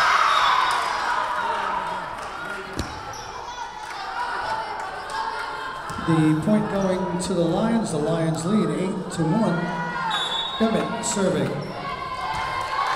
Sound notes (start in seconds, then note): 0.0 Lions cheering; 0.2 whistle blowing; 10.0 whistle blowing